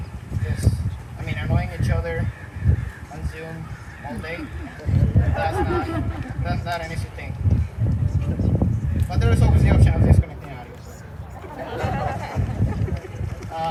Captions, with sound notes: because, I mean, annoying each other consumed all day. ( Laughter ) That's not an easy thing. But there was always the option of disconnecting the audio. ( Laughter )